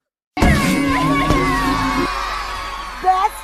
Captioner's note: akko crying